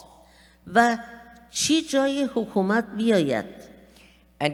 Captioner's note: speaking persian